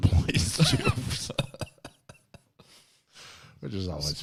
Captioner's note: laughs